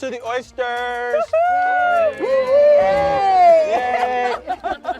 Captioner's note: all cheering